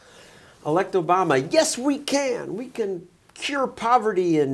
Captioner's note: enthusiastically